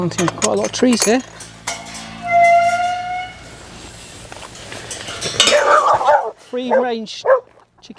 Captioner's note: dog barks from behind